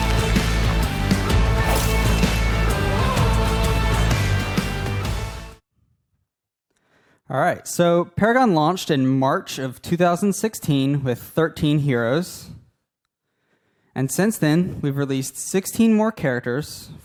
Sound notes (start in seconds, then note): 1.5 ice shatters